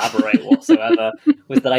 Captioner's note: laughs